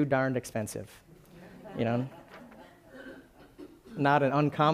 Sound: laughing

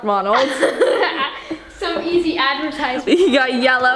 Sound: laughs

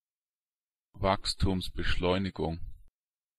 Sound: fast Pronunciation

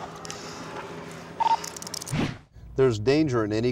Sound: handcuffs tightening

